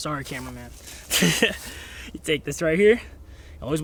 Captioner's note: laughs